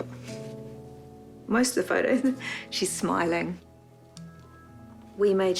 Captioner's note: chuckles